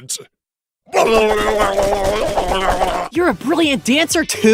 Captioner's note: babbling noises